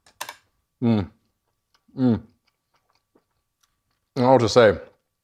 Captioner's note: mouth squelching